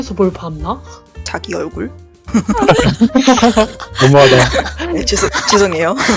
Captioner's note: laugh